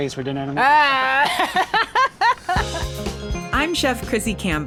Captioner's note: both laughing